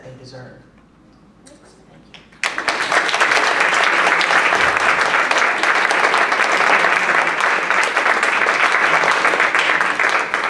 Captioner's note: applause